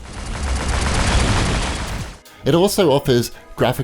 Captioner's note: gunfire